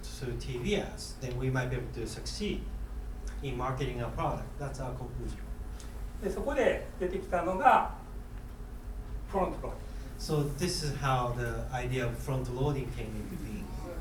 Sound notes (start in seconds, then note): 6.3 speaking in foreign language